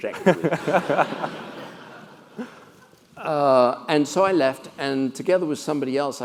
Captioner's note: laugh